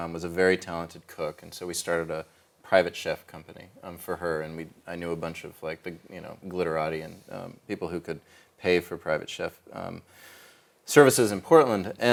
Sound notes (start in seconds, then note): none